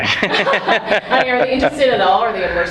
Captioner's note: laughs